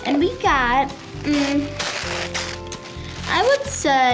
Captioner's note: paper rustling